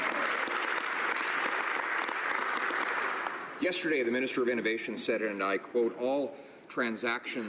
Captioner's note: some Applause